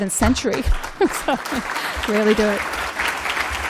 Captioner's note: applause; laughter; applause